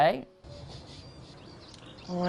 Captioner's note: sniffs